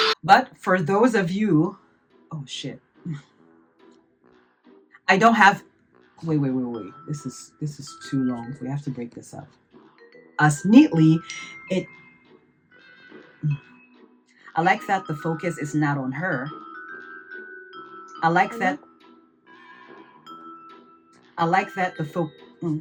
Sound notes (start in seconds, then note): 10.6 phone notification